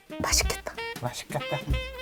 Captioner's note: gulp